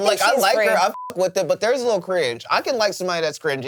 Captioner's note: beep